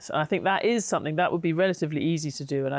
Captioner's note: none